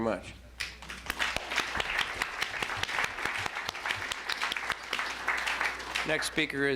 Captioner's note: applause